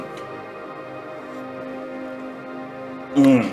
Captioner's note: speaking in foreign language